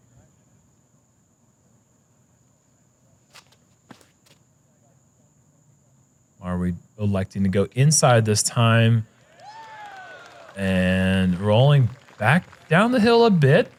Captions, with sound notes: Are we electing to go inside this time? [applause] Rolling back down the hill a bit,